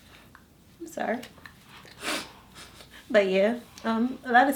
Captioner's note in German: schnüffelt